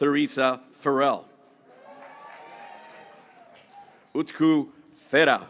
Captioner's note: graduates cheering